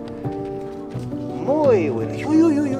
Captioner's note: in Spanish